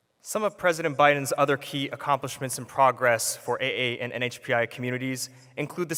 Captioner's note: none